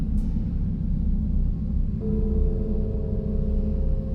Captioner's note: gong ringing